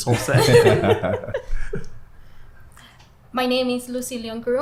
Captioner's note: everyone laughs